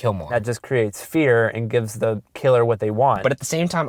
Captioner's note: voiceover